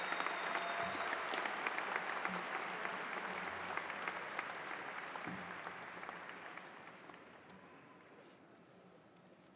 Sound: cheers and applause

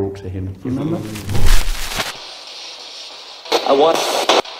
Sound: screen crackling

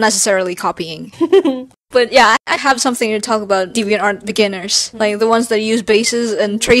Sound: giggles

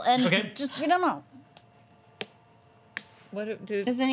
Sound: slapping sound

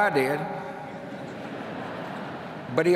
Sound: laughter

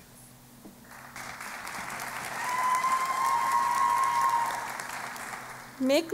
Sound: applause and Cheering

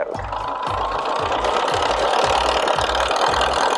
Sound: machine whirring

